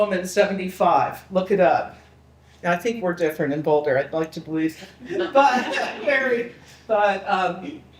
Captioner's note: people laughing